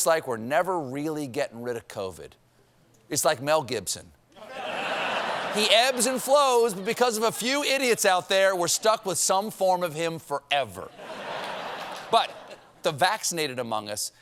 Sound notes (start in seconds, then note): 10.9 laughter